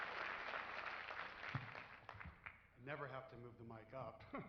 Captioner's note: cheers and applause